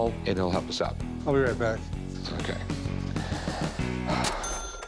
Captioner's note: sighs